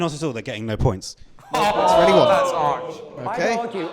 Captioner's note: they ooh